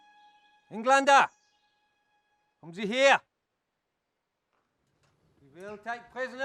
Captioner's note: speaking German